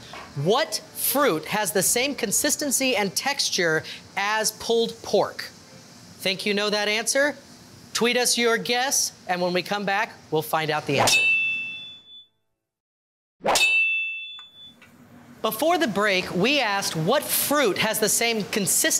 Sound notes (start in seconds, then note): 11.0 glasses clinking; 13.5 glass clinking